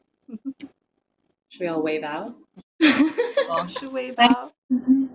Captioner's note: giggles